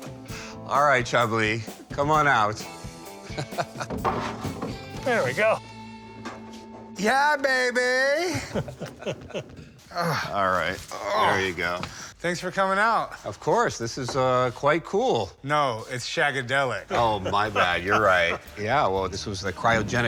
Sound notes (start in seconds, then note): 3.3 laughs; 8.3 chuckle; 10.9 Chumlee grunts; 16.8 laughs